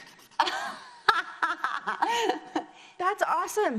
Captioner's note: laughs